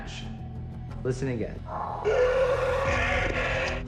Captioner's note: dinosaur roaring; alleged bigfoot roaring